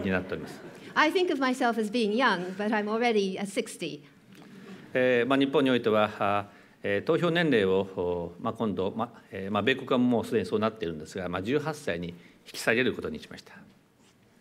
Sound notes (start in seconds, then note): 6.0 speaking japanese